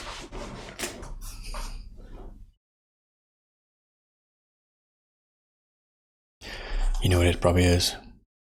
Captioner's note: blank Audio